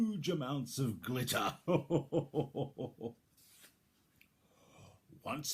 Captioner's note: chuckles